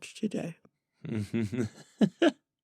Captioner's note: laughter